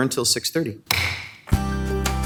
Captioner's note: gavel bangs; upbeat music